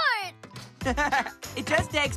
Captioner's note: chuckling